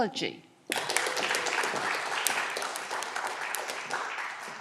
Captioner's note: audience clapping